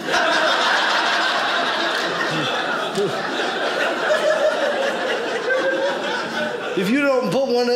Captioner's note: audience laughing